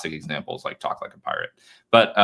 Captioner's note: laughs